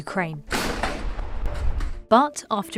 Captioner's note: loud gunfire bangs